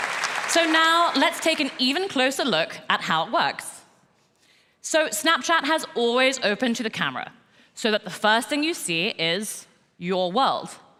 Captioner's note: applause